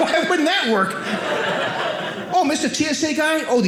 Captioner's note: audience laughing